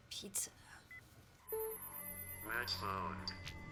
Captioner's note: beeping; electronic Voice On Computer